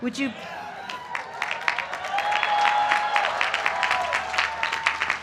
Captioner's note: applause